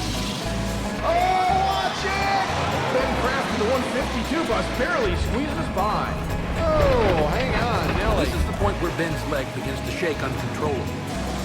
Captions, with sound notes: Oh, watch it! (crowd cheering) Ben Kraft in the 152 bus barely squeezes by. Whoa, hang on, Nelly. - This is the point where Ben's leg begins to shake uncontrollably.